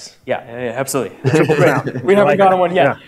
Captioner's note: laughter